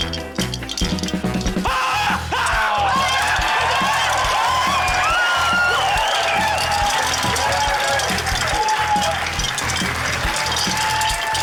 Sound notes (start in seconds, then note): 1.6 screams; 3.9 cheering, applause; 8.6 cheering continues